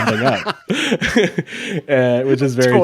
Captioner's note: laughing